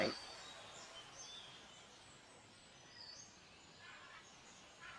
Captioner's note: birds chirping